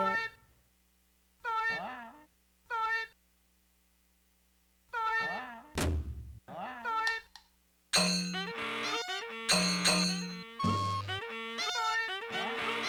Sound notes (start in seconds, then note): 0.0 high pitched vocalizations; 5.8 bang; 7.9 clanging and high pitched noises